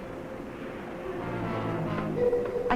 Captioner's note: faint muffled chatter